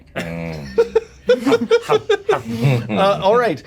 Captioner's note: Omin laughing